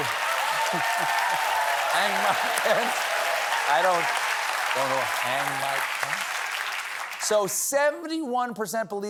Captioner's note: cheers and applause